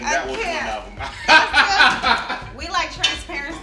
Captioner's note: laughs